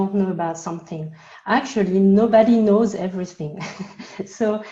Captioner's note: laughs